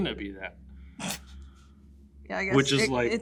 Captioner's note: laughs